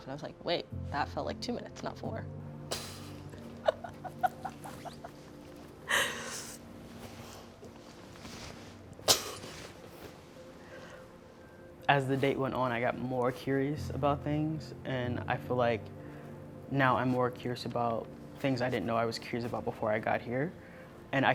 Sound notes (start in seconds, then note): 3.2 laughing